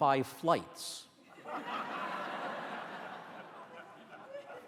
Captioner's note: audience laughter